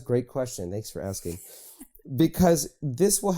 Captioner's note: laughing